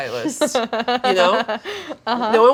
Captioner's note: Claire laughing